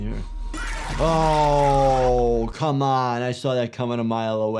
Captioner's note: animatronic screaming